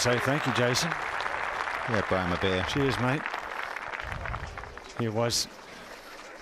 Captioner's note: cheers and applause